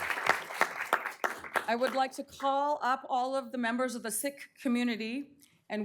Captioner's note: applause